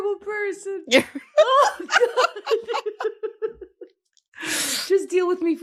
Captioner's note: laughing